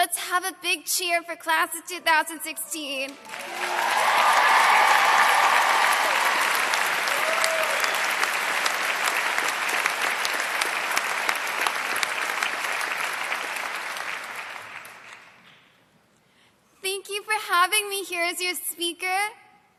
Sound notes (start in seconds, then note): 6.5 applause